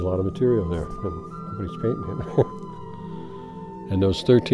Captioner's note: chuckles